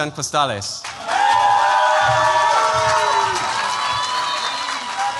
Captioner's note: cheers, applause